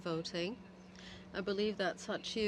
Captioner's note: speaking French